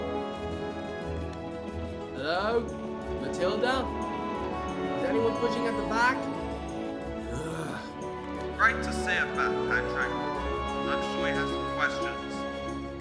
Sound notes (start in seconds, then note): 7.2 groans